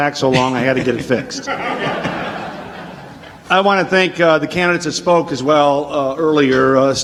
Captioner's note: audience laughs